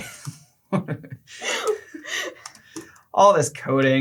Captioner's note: laughter